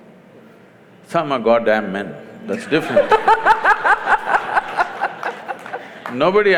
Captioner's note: laughter